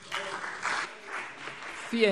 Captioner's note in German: Beifall CDU und BÜNDNIS 90/DIE GRÜNEN